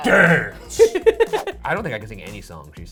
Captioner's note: laughing